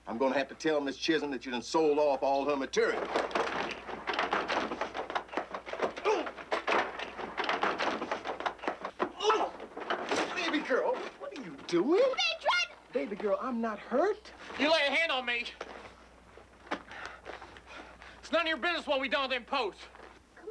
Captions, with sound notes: I'm gonna have to tell Ms. Chism that you done sold off all her material. (door thudding) - Oh! (bag thudding) Uh! - Baby girl, what are you doin'? - They tried to- - Baby girl, I'm not hurt. - You lay a hand on me. It's none of your business what we've done with them posts.